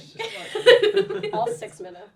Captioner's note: laughs